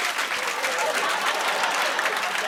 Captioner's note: cheers and applause; laughter